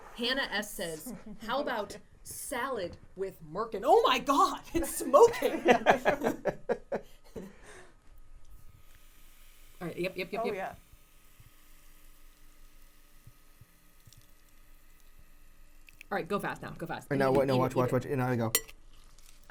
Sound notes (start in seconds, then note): 5.1 laughing